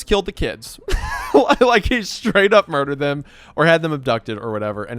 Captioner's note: laughs